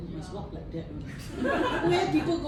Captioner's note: laughter